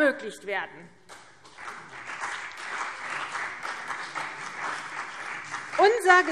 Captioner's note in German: Beifall CDU und BÜNDNIS 90/DIE GRÜNEN